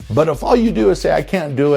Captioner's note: vinyl rewinding